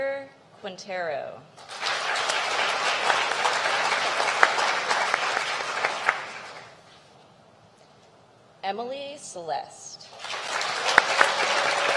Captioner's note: applause